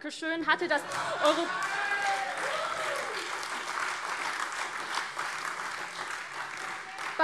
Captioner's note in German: Beifall AfD